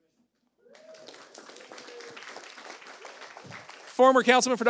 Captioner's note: audience applauds